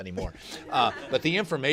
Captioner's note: laughter